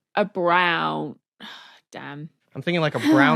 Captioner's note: sighs